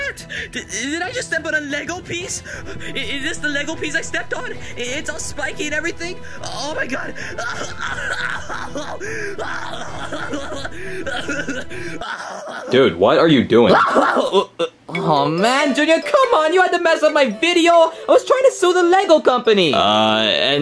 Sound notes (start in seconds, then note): 7.8 exaggerated sobbing; 13.7 sobbing